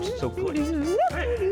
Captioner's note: Red hums